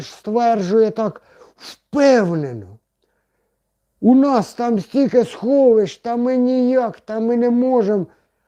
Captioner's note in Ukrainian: сопіння